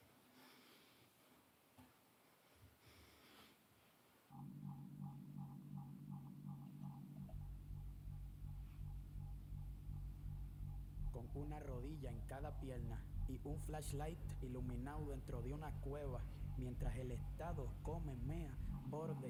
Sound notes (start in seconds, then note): 5.4 dramatic music; 12.4 foreign language